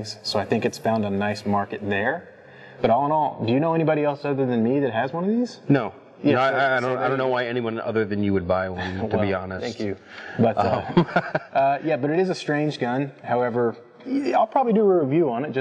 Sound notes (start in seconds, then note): 10.1 laughs